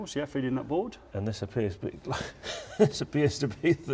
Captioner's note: laughing